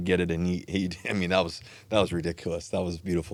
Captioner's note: chuckles